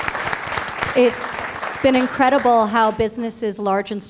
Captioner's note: applause